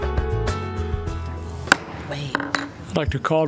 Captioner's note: gavel strikes